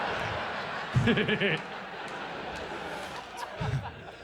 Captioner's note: laughs